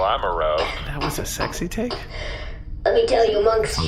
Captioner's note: coughs